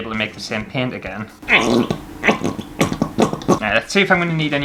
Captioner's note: squirty Sounds